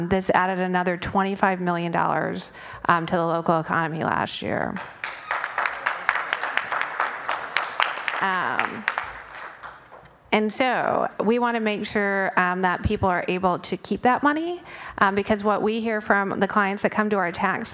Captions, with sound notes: THIS ADDED ANOTHER $25 MILLION TO THE LOCAL ECONOMY LAST YEAR. [ APPLAUSE ] AND SO WE WANT TO MAKE SURE THAT PEOPLE ARE ABLE TO KEEP THAT MONEY BECAUSE WHAT WE HEAR FROM THE CLIENTS THAT COME TO OUR TAX